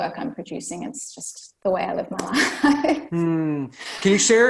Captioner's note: laughs